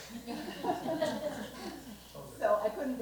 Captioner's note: laughter